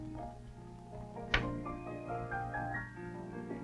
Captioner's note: metal clunking; soft music